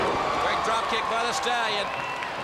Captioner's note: crowd chatter